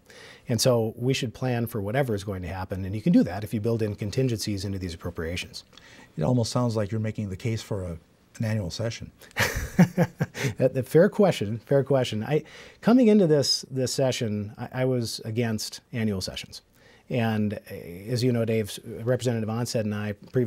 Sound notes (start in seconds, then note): 9.3 laughs